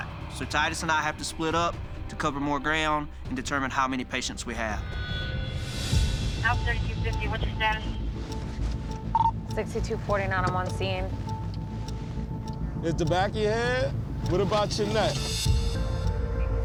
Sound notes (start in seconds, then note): none